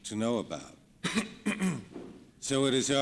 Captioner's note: man in background coughs